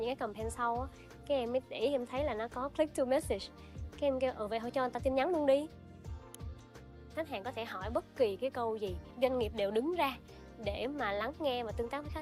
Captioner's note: speaking another language